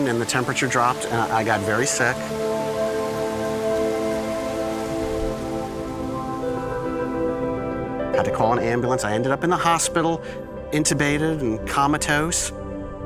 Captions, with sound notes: and the temperature dropped and I got very sick. (rain pattering) (ethereal music) Had to call an ambulance. I ended up in the hospital, intubated and comatose.